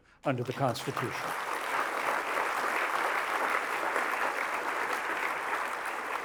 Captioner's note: applause